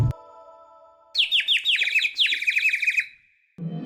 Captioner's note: chirps